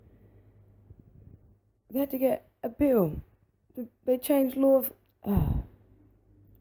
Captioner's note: angry sigh